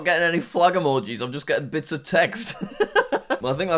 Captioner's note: laughs